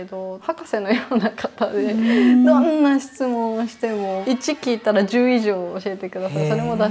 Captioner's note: laughs